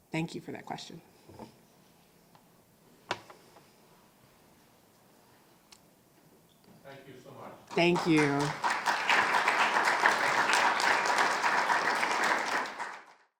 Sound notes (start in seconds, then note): 7.7 audience applauding